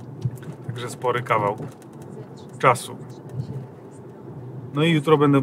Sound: message from GPS in the background

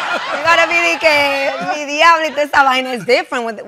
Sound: spanish

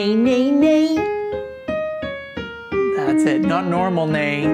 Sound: jabbers; soft music continues

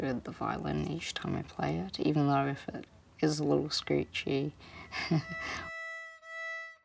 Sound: chuckles

